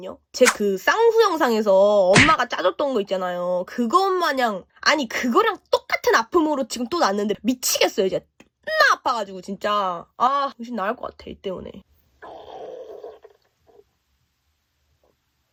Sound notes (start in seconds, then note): 12.3 grrrroooowl